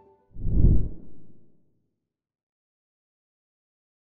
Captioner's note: logo whooshing